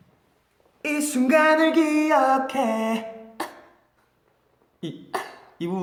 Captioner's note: hiccup